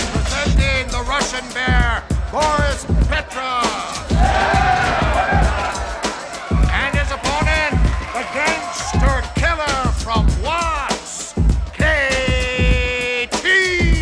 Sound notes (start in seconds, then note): 4.5 crowd cheers